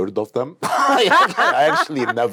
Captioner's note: laughs